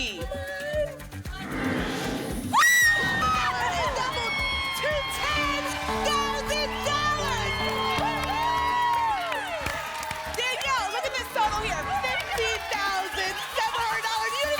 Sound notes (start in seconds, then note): 8.8 applause and cheering